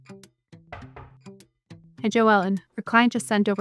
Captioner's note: knocks